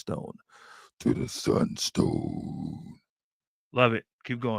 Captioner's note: deep voice